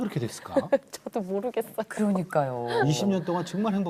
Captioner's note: laughter